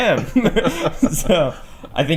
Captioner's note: laughter